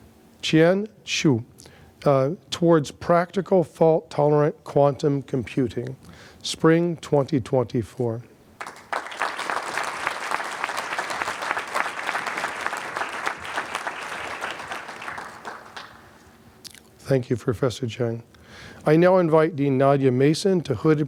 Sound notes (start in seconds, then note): 8.6 applause